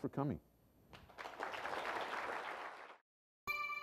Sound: applause

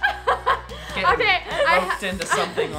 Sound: laughs

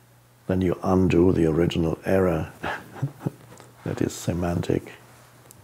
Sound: laughs

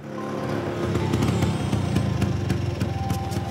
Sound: scooter engine stopping

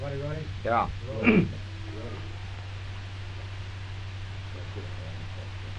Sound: coughing

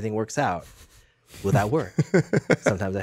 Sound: Justin laughs

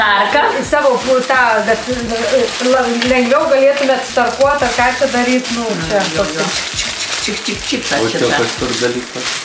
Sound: grating sounds

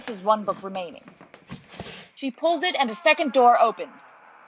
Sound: book moving out of shelf

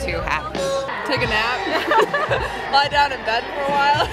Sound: laughs

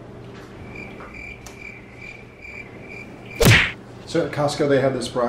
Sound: crickets chirping

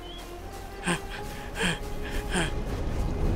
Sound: labored breathing

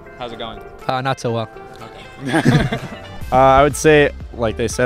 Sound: laughter

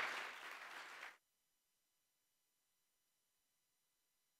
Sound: applause

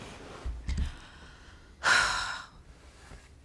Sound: Efosa sighs

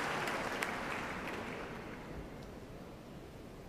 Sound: cheers and applause

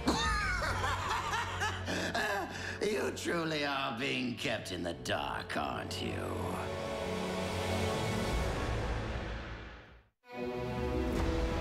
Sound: laughs

